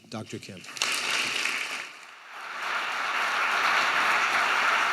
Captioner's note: audience applauding